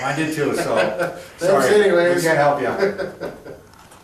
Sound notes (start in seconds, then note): 2.6 laughing